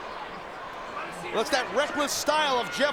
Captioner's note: audience chattering